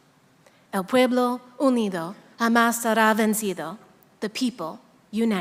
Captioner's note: speaking in a foreign language